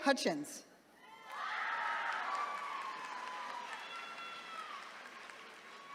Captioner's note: attendees cheering